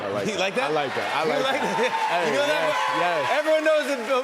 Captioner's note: cheers and applause